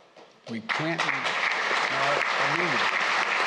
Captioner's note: applause